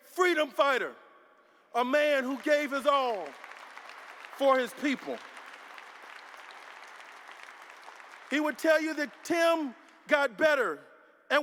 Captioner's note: applause